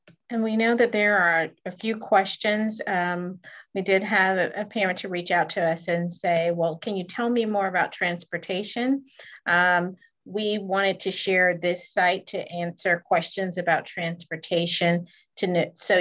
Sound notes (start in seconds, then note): none